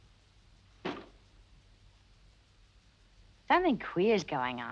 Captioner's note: windows banging